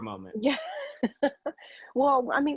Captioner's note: laughing